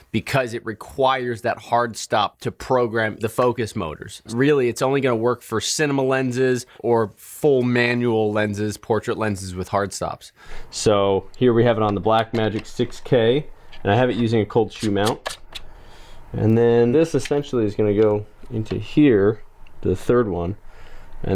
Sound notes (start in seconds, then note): 15.2 gentle whirling sound